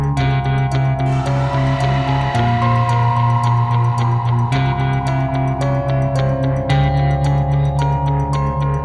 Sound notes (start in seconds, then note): 1.0 demonic groaning echoes